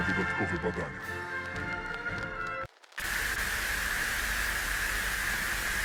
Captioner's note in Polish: szum